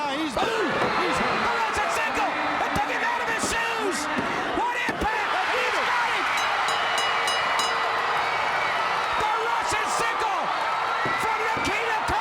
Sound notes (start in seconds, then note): 1.8 crowd cheering; 6.4 crowd cheering; 8.8 bell ringing; 10.0 crowd cheering